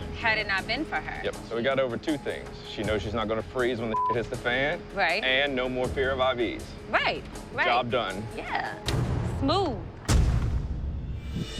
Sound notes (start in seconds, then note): 8.6 clap; 10.0 thud; 10.7 foreboding music